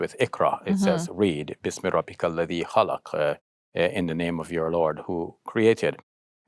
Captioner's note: speaks Arabic